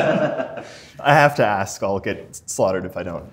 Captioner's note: laughter